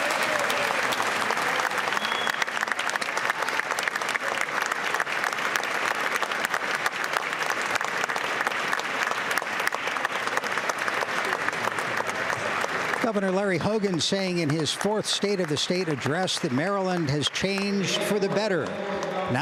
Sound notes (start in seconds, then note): 4.3 applause